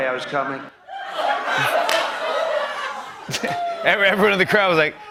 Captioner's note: laughter